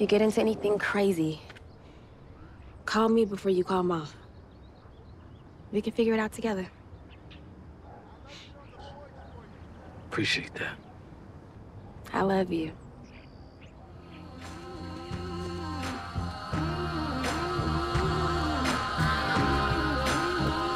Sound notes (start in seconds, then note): 7.8 dog barking in background; 14.2 warm rhythmic music